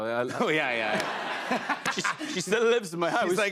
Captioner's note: laughter